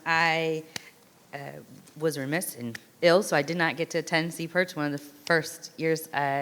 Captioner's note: none